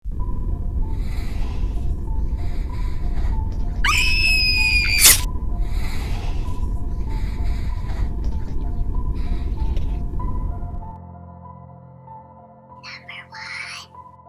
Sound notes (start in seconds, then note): 0.0 whispers; 4.8 scream; 5.4 whispers